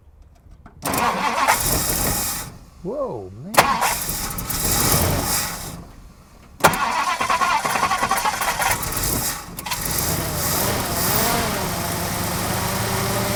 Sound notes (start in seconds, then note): 0.7 engine cranking; 3.7 engine sputtering; 10.2 engine revving